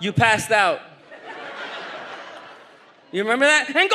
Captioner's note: audience laughs